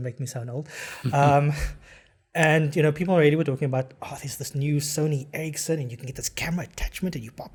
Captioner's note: laugh